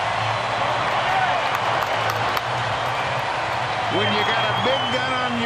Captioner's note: cheering and Applause